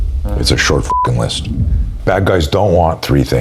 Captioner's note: beep